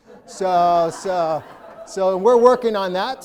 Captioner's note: audience laughing